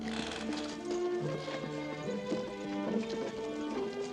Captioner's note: clip-clop